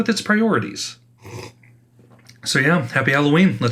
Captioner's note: sippy sips